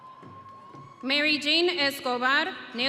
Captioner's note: audience cheering